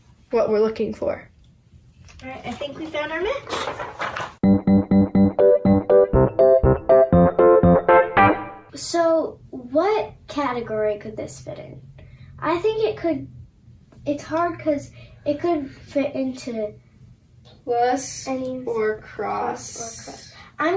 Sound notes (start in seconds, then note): 3.4 papers rustling; 4.4 bouncy upbeat music